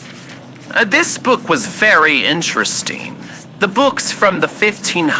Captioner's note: turning books pages fx